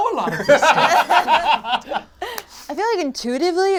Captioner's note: all laugh